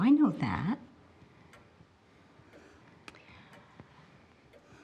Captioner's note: clock ticking